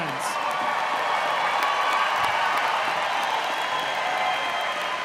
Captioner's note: audience applauding and cheering